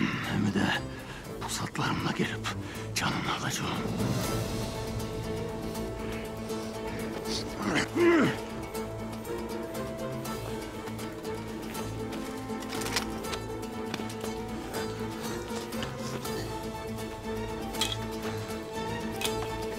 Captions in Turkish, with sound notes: Hem de pusatlarımla gelip canını alacağım. (Bağırma sesi) (Müzik - Hareketli)